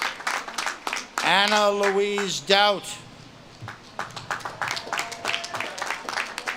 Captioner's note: audience claps and cheers